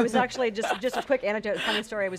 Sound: laughs

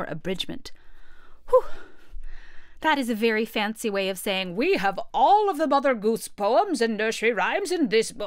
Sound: sigh

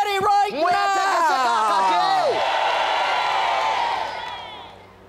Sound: boisterous applause and cheering

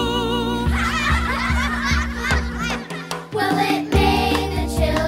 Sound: children Laughing

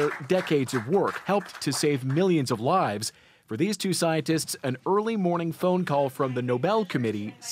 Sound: applause

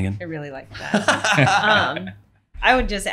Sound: laughing

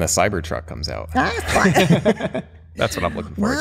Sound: laughter

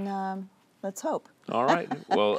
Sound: laughter

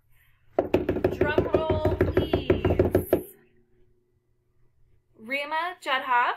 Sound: hands beating

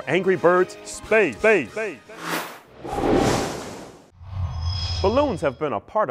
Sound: sound Effects

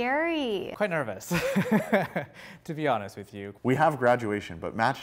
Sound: laughter

